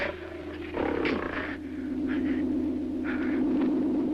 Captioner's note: grunting